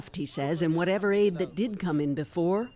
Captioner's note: speaking Foreign Language